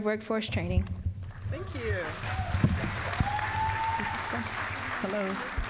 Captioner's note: applause